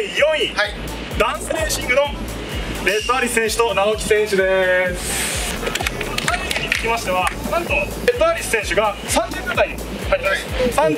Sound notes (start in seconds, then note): 5.3 clapp